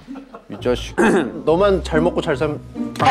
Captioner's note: clearing his throat